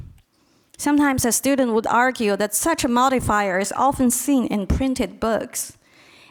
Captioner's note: none